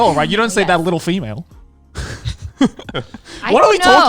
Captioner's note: man laughs